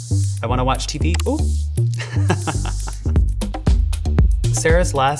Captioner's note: laughing